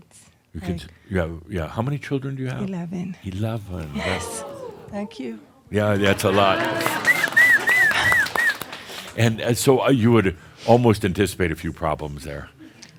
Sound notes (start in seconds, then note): 3.8 audience says “Woo!”; 6.0 whistles, cheers and applause